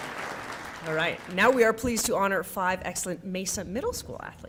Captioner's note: applause